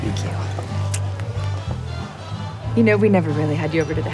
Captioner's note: upbeat music continues; lips smack